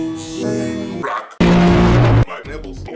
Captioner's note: loud distorted noise